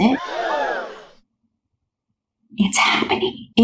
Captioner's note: crowd gasps sfx